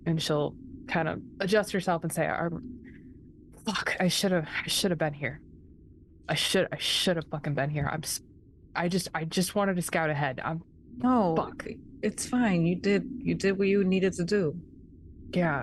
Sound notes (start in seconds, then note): none